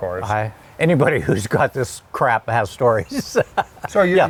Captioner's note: chuckles